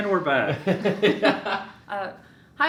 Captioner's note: laughs